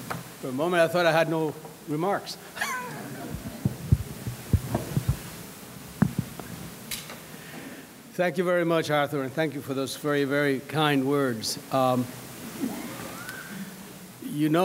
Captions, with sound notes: - For a moment, I thought I had no remarks (laughs). Thank you very much Arthur and thank you for those very, very kind words.